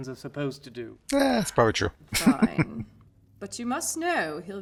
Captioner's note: chuckling